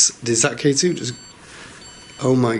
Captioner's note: high-pitched chirping